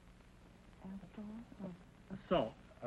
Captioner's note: whispering